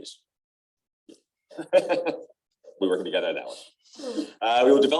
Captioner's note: laughter